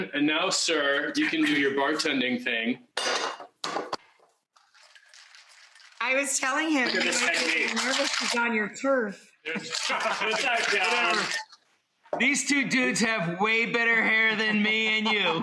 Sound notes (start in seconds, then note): 4.6 ice clinking; 7.8 ice clinking